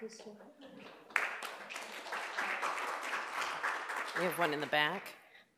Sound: applause

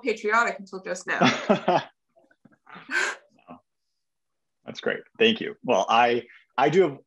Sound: laugh

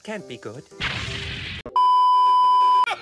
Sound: poof; beep

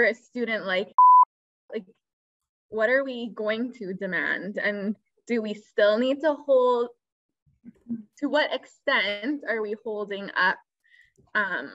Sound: beep

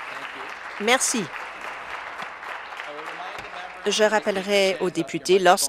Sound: applause

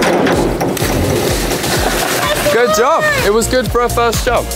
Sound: water splashing

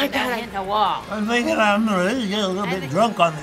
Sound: slurring

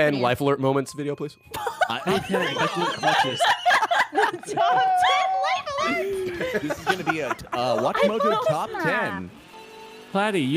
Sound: everyone laughs

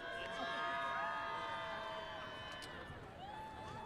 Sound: audience cheers

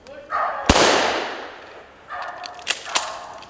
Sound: gunshot

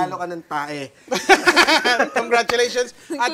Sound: laughter

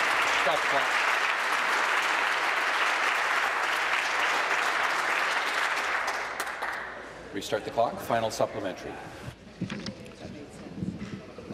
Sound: applause

